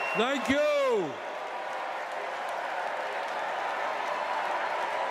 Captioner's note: cheers and applause